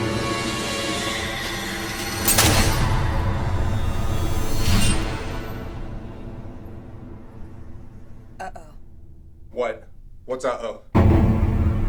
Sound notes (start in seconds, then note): 2.2 orb shattering